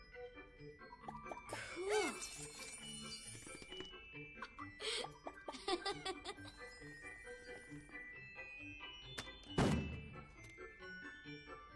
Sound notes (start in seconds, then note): 4.4 laughing